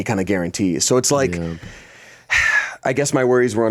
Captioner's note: sighs